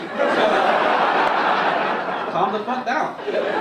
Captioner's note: audience laugh